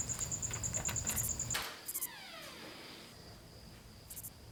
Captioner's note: door creaks